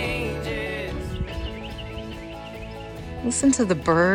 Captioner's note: birds chirping